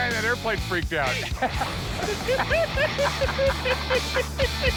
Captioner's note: laughter